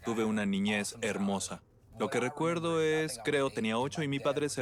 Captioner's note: none